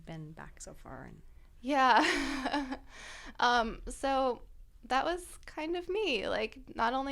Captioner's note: laughter